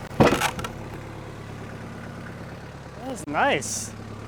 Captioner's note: slab banging